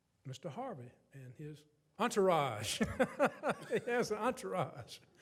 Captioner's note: laughs